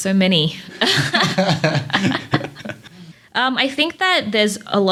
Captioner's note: laughter